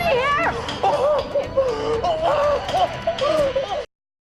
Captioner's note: groaning